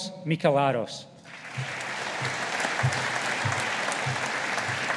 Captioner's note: audience applauding